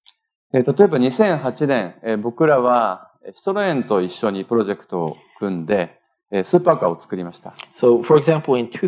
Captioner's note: speaking japanese